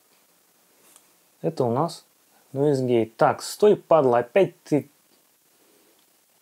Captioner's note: Laptop fan full throttle sound